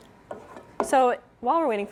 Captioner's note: spoon stirring in pan